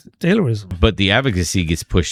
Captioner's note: uh